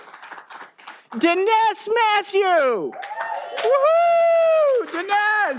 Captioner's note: all applauding